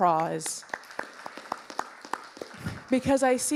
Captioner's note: audience applauding